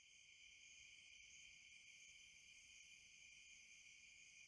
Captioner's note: crickets chirping